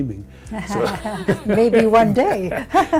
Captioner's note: laughs